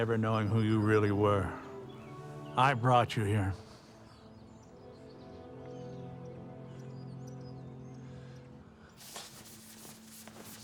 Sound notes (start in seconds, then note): 4.9 birds chirping; 4.9 slow somber music